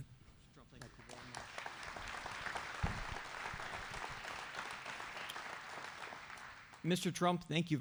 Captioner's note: applause